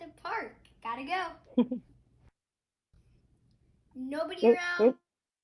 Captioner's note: giggles